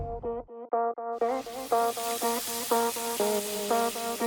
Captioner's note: soft electronic music; oil sizzling